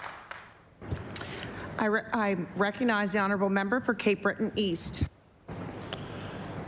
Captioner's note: applause